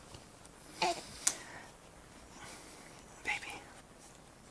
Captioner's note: baby gasps